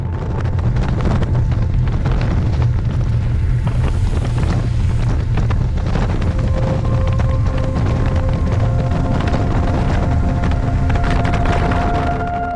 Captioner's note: sound of driving on a rough gravel road